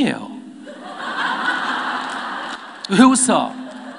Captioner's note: audience Laughter